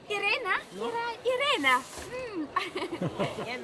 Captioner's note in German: Lachen